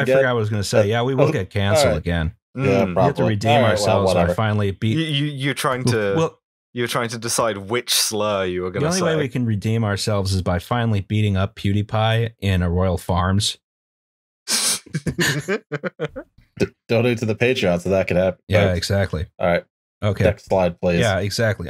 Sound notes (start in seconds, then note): 14.9 laughter